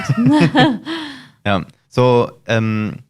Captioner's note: laughs